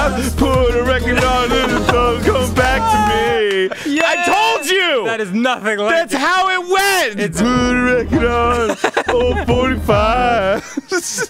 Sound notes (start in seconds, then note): 0.7 laughs and shouts 'Ohhh!' in realization; 7.8 singing; 7.9 laughing